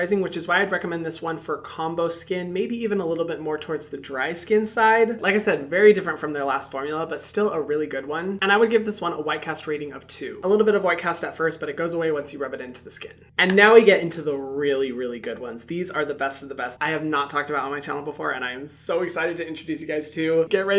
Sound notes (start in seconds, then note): 13.4 hands tapping